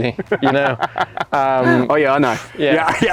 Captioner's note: laughs